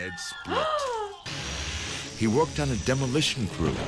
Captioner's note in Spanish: maquinaria zumbando; jadea